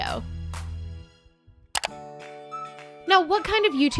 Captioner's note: clicking